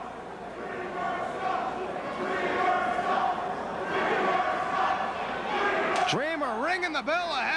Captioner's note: crowd chatter